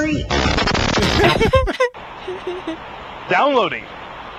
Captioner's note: static crackles